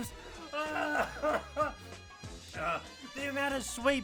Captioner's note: sobs